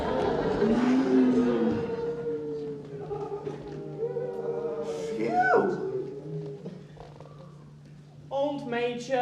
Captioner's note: animal noises